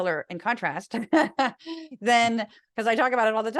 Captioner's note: laugh